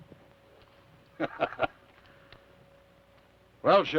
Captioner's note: Theodore laughs